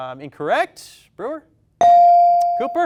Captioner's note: bell dings